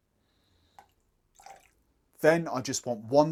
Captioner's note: liquid pouring